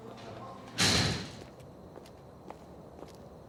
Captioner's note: footsteps echo